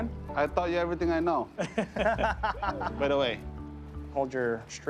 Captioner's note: laughter